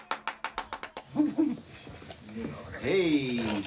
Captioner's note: indistinct chatter